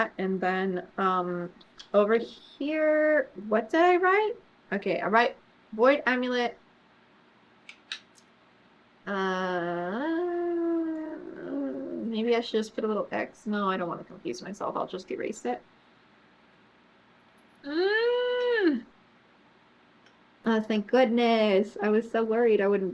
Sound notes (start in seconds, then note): 17.6 groans